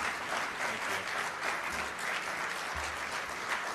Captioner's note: applause